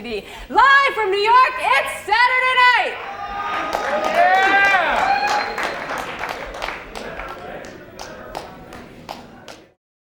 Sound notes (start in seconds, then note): 2.8 crowd cheers and applause